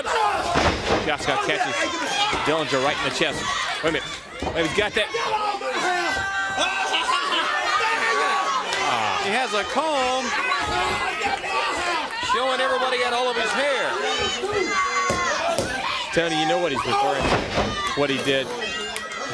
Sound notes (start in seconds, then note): 0.0 crowd chatter; 6.1 crowd chatter